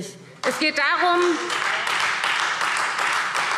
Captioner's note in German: Beifall Freie Demokraten